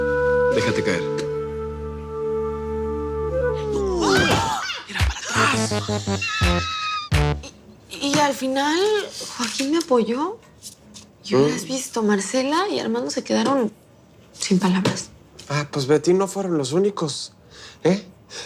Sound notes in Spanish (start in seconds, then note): 3.6 Gritos ahogados